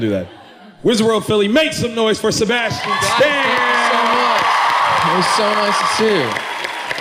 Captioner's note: cheering